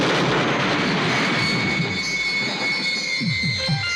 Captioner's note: loud crashing